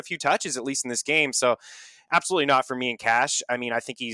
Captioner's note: inhales